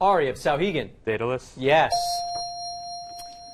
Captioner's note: dinging